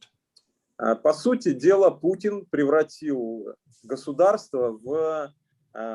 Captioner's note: speaking Russian language